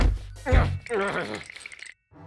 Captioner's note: shivering